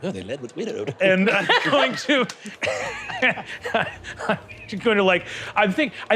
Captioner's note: laughing